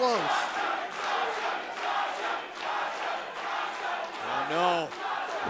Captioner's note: crowd cheering